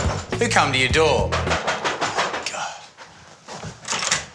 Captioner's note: knocking